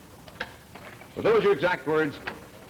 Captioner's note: Moulton's voice